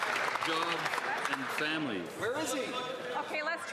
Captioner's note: some Applause